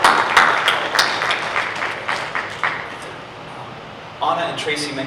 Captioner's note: everyone applauds